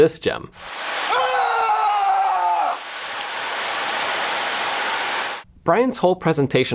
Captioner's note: indiscriminate screaming at a jbod